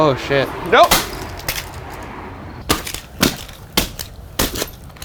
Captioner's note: plastic crunches